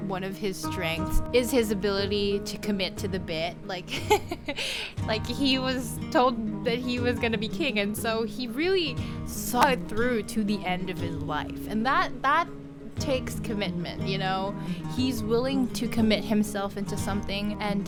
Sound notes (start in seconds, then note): 3.9 laughter